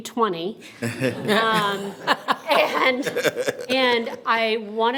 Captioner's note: everyone laughing